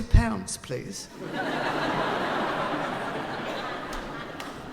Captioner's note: laughing